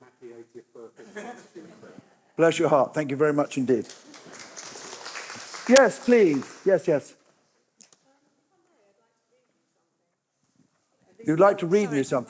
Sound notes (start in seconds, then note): 3.7 applause